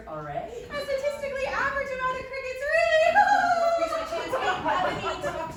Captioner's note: nervous laughter